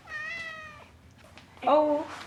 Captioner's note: cat meowing